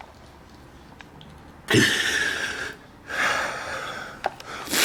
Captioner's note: gasping